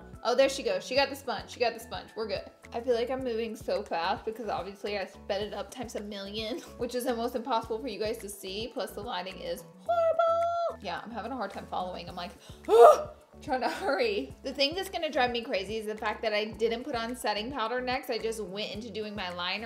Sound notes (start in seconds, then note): 12.7 screams